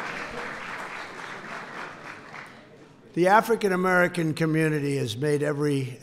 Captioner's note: applause